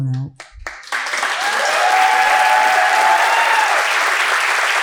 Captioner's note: audience cheering